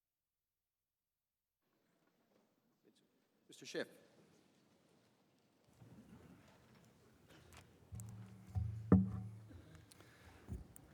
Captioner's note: silence